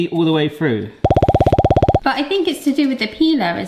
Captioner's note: digital popping beeps